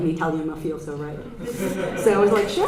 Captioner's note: audience laughter